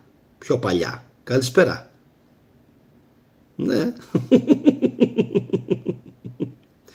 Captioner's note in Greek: γέλια